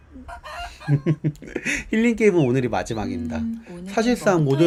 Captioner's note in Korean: 웃음